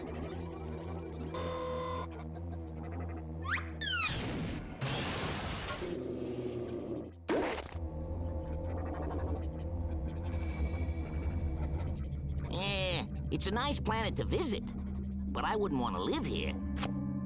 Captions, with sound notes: [whirring] EH, IT'S A NICE PLANET TO VISIT, BUT I WOULDN'T WANT TO LIVE HERE.